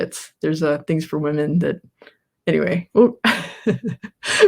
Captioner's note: laughs